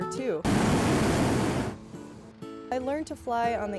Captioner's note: flame whirring